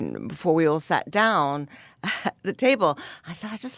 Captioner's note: laughs